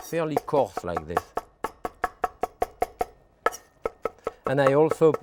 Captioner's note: knife tapping